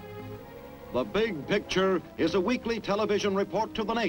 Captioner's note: male Voice